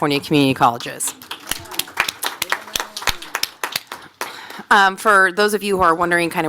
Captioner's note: applause